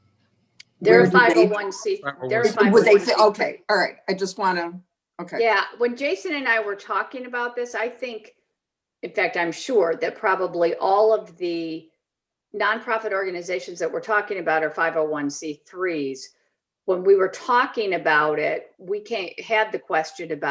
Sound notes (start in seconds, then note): 0.7 group chattering